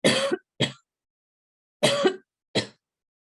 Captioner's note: coughs